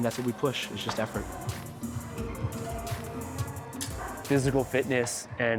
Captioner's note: muffled woman on speaker